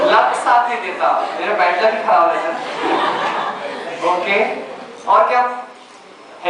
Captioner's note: laughter